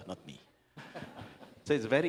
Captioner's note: laughter